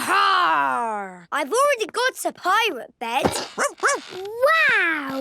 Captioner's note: barking